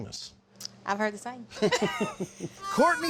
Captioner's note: both laugh